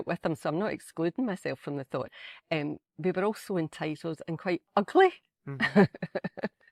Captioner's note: laughter